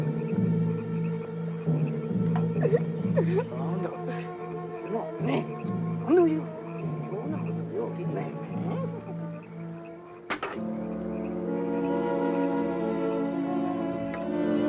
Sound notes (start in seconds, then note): 2.5 Pilar crying; 5.0 soldiers speak Japanese; 10.3 slow somber music